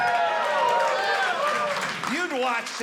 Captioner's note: audience cheering